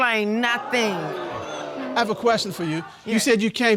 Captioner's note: audience exclaiming